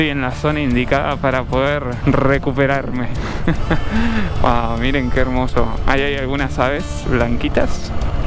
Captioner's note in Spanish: risas